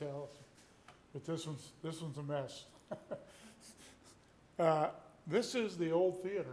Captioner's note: laughs